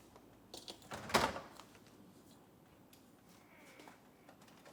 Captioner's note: door rattles